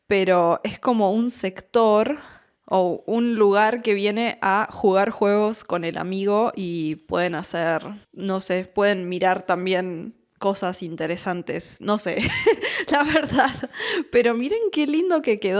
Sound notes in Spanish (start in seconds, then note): 12.1 risas